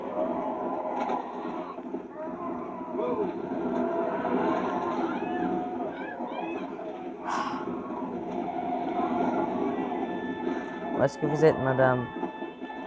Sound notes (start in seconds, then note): 2.0 screams from the burning zombies